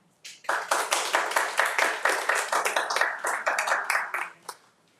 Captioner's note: attendees applauding